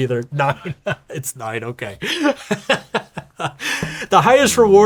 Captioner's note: laughing